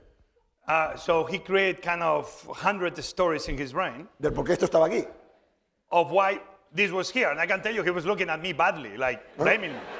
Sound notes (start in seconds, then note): 4.8 speaking spanish